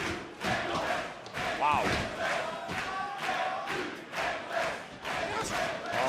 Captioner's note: crowd cheering